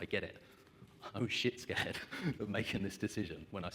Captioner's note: laughs